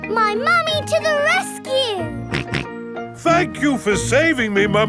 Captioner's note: snorting